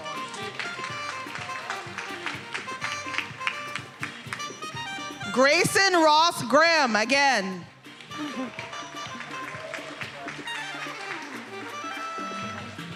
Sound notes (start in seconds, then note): 0.0 attendees applauding; 7.7 attendees applauding